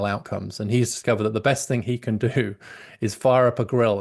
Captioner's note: laughs